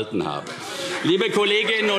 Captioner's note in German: Beifall CDU - Lachen AfD